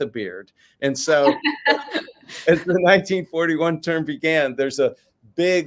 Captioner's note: laughs